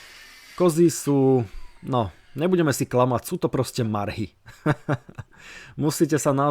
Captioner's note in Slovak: smiech